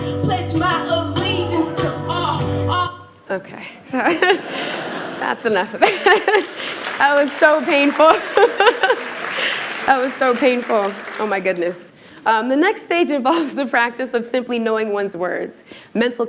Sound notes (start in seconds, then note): 3.1 laughter; 6.1 applause